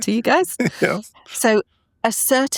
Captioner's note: laughing